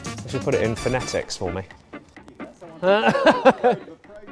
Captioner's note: laughs